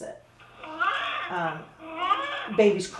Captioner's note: baby mannequin cries